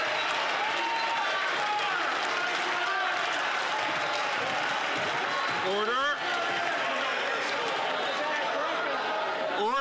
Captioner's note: some Applause